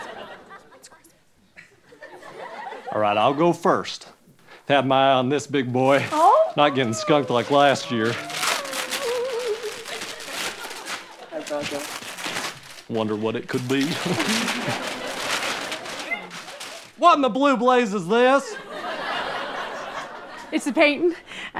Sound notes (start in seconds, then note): 0.4 whispering; 8.3 crinkling; 13.7 audience laughing; 18.4 audience laughing